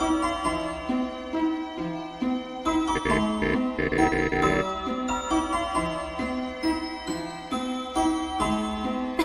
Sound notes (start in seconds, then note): 0.9 cough